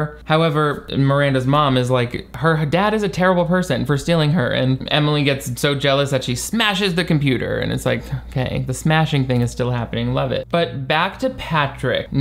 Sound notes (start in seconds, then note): none